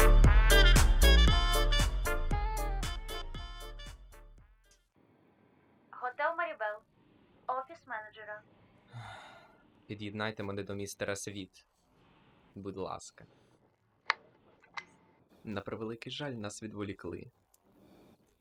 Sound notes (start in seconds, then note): 2.8 music fades; 8.8 sighs